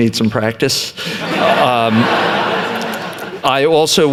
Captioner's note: laughter